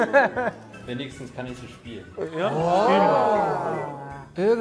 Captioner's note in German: Erstaunte Rufe